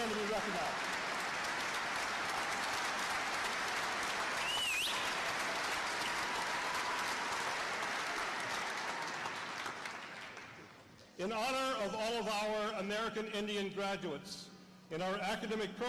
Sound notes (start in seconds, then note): 0.0 applause